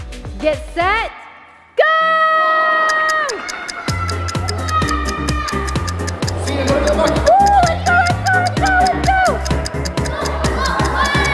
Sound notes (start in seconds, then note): 2.8 stopwatch ticks